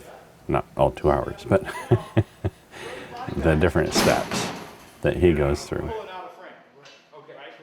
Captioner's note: laugh